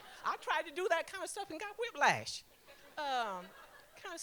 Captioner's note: laughter; laughter